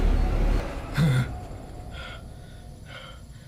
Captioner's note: suspenseful music; gasping